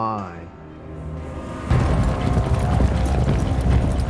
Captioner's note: horses running